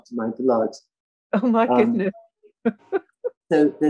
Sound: laughing

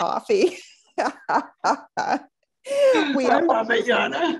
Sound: all laughing

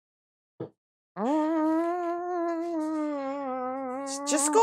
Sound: weird humming

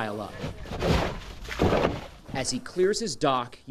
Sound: shovel scraping

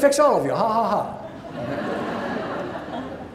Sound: laughing

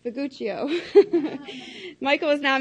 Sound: laughs

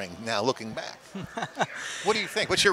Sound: laughs

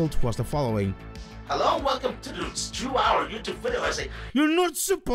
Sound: ChatGPT voice

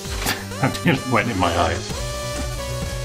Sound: chuckles; upbeat music

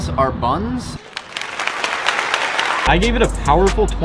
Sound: clapping

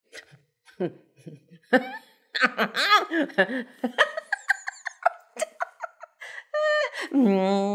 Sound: laughing

